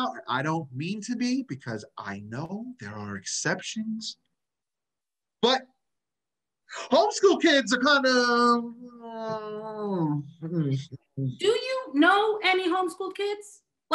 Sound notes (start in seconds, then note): 9.1 murmurs